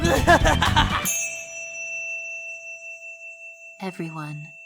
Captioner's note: yang laughs; chime